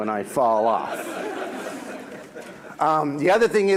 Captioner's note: audience laughs